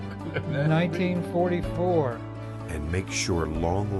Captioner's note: laughing